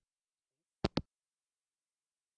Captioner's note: hangup